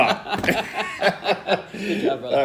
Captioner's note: laughter